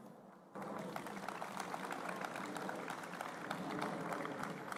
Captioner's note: applause